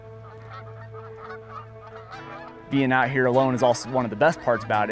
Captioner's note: geese honking